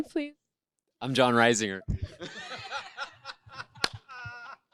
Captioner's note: laughs